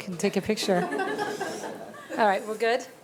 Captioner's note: attendees laughing